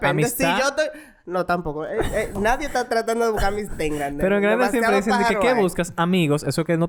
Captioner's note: laughs